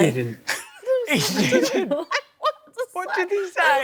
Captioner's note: laughs